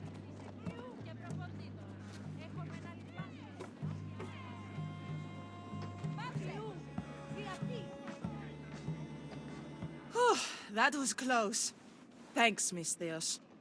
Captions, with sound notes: (exhale) That was close. Thanks, Misthios.